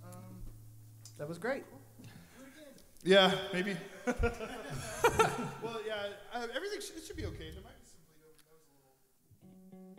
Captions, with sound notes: - That was great! - Yeah, maybe. (laughs) yeah everything should be okay.